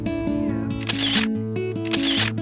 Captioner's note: camera shutter activates